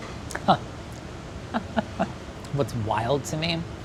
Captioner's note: chuckles